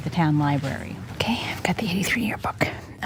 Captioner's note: whispers